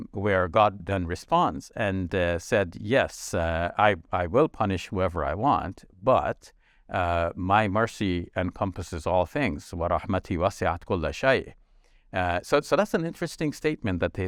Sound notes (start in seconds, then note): 10.0 speaks in foreign language